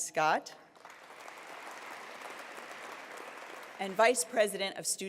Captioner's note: applause